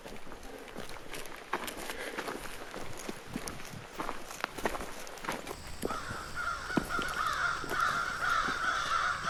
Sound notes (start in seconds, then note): 5.5 crows cawing